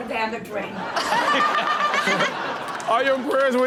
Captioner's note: everyone laughs